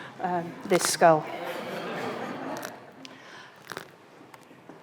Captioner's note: audience chuckling